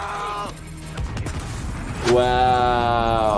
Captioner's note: bomb exploding